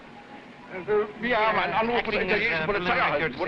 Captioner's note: officer speaking foreign language